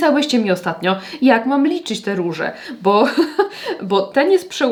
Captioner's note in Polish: śmiech